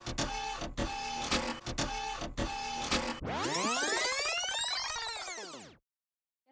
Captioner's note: mechanical sounds